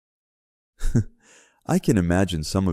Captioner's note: chuckles